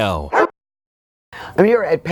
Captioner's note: dog barks